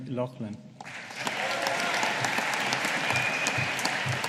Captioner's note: audience applauding